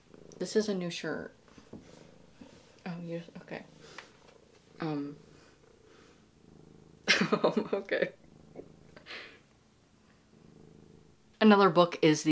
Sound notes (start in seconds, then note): 0.0 cat purring; 7.0 laughing